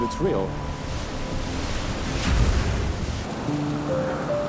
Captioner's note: waves crash